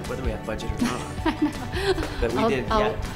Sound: laughs

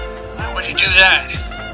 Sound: on the radio

